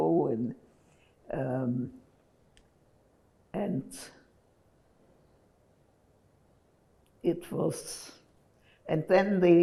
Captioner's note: pauses 6 seconds